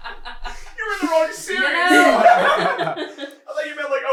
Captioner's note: uproar of laughter; laughter